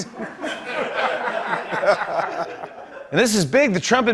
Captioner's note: laughter